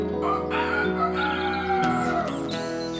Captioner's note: rooster Crows